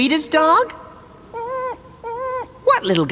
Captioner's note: whimpers